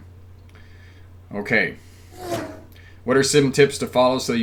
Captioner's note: air whooshing